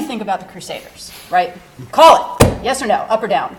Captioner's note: pounding desk